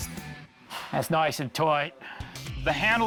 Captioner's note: British accent